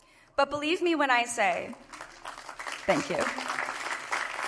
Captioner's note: applause